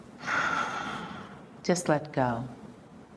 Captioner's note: exhaling deeply